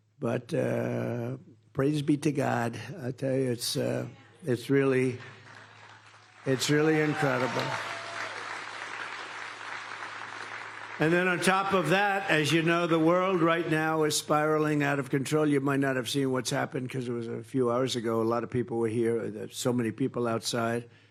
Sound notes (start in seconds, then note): 9.7 applause